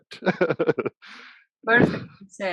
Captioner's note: laughs